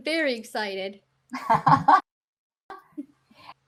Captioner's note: laughing